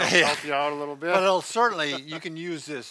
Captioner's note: laughing